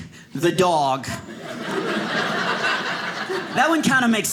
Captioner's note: audience laughing